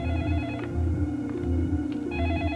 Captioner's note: telephone rings